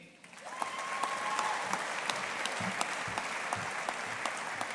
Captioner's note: audience applauding